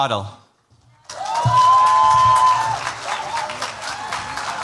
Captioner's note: cheers, applause